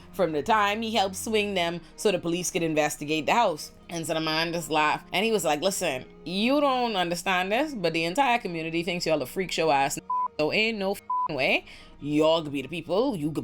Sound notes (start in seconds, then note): 11.0 beep